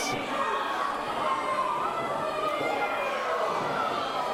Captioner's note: audience cheering